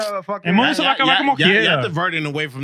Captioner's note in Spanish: Hablando en idioma extranjero